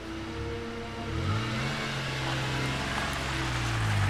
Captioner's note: engine roaring